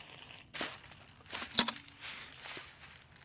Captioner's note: footsteps